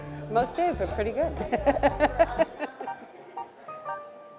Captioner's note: laughs